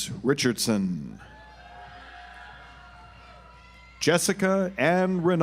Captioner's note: audience applauds